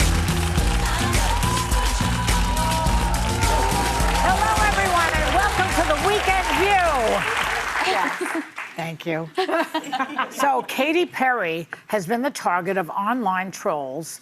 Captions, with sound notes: (upbeat music) Hello everyone and welcome to the weekend view. (audience applauding) Yeah. Thank you. (audience laughing) So Katie Perry has been the target of online trolls